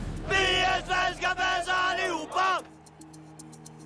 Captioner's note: chanting